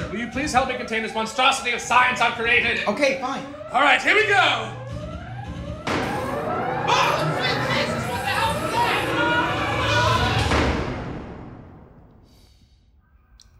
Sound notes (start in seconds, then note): 8.7 screaming; 10.6 door slamming